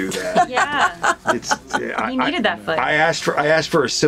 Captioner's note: laughing